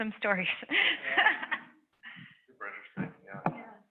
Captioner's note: laughs